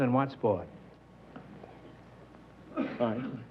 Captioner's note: whispering